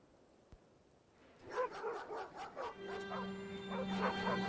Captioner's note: dogs barking; pensive dramatic music